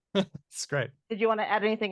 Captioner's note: chuckles